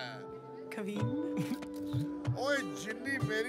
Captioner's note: Chuckles